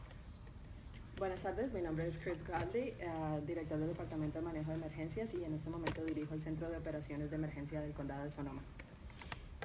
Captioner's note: speaking in Spanish